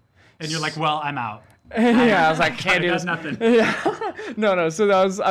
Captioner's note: laughs